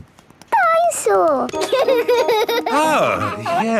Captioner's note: giggles